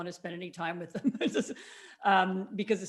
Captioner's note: chuckles